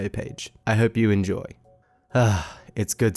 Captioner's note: sighs